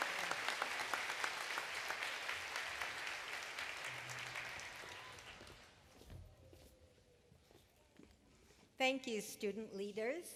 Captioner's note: applause